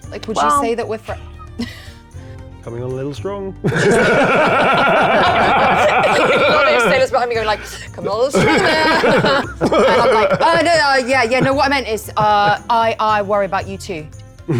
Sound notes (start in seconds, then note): 3.6 players laughing; 14.4 players laughing